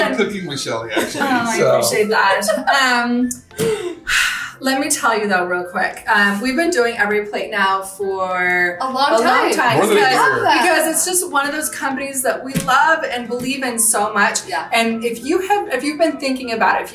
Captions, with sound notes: - I love cooking with Shelly actually. - Oh, I appreciate that. (light shirt laughing) (sighing) Let me tell you though, real quick. We've been doing EveryPlate now for- - A long time. - A long time. - We love them. - More than a year. - Because it's just one of those companies that we love and believe in so much. - Yeah. - And if you have, if you've been thinking about it.